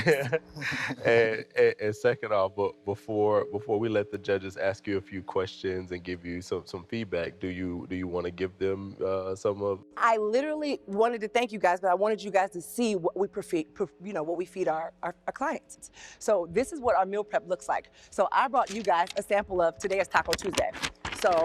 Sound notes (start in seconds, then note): 0.0 laughing